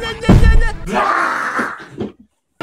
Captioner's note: Strider screams